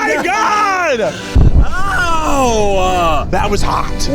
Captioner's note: explosion booming